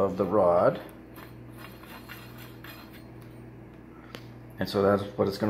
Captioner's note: metal scraping against metal